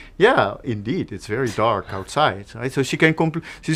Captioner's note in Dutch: lach